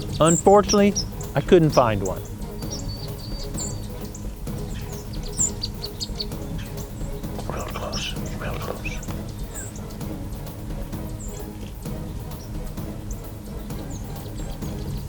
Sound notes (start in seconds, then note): 6.5 whispering